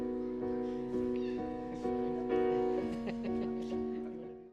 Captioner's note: laughs